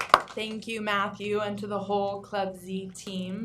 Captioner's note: applause